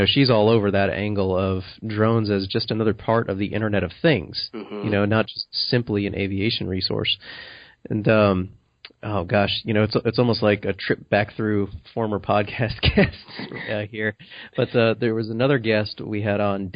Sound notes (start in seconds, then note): 4.5 affirms